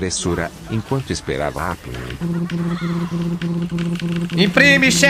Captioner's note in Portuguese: som de impressora